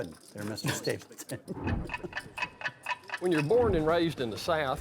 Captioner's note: clock ticks